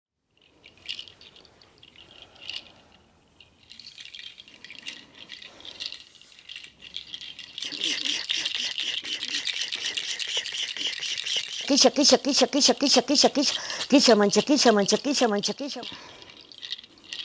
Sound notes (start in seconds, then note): 7.6 whispering; 11.8 chanting in Quechua